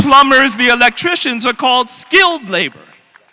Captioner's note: applause